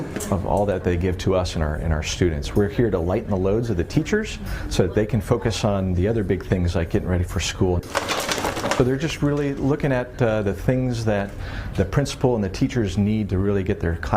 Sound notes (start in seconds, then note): 7.8 chargers hitting together